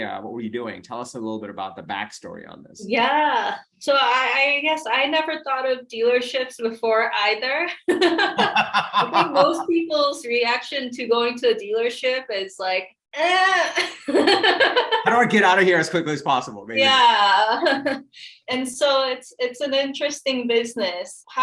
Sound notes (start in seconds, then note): 8.0 laughs; 14.1 laughs